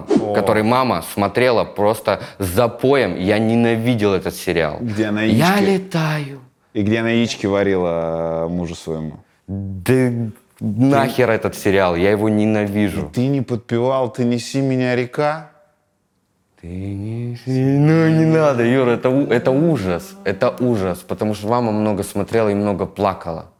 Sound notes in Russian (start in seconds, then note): 13.2 Дудь с жалостью; 16.7 напевает